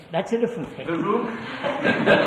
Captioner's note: laughter